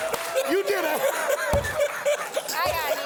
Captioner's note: laughter